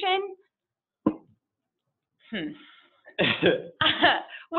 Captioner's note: laughs